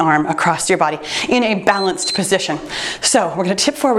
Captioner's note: timer beeps